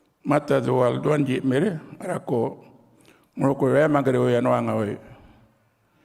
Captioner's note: continues to speak native language